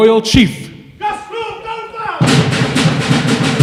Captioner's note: non-english speech; drums playing